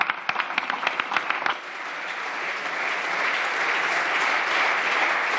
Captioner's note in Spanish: Aplausos